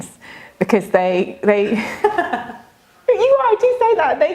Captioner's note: laughs